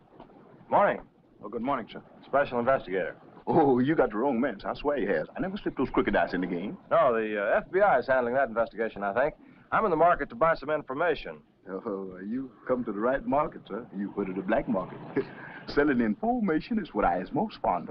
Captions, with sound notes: - Oh, good morning, sir. - Special investigator. - Oh, you got the wrong man, sir, I swear you have. I never slipped those crooked dice in the game. - Oh, the FBI is handling that investigation, I think. I'm in the market to buy some information. - Oh, you've come to the right market, sir. You've come to the black market. (chuckles) Selling information is what I's most fond of.